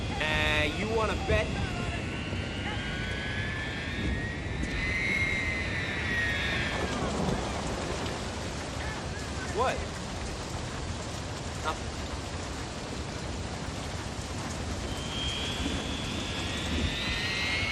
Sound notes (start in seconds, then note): 2.1 jet roars; 7.3 thunder rumbles; 13.8 jet roars